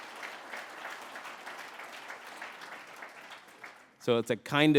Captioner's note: applause